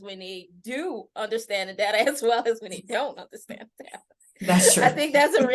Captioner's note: laughter